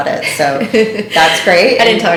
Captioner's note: laughing